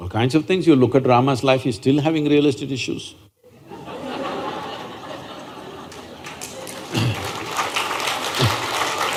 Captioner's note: laughter/Applause